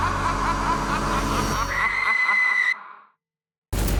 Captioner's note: Kara screams